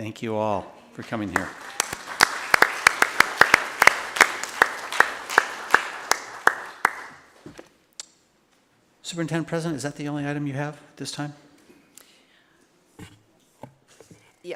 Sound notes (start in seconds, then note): 1.0 applause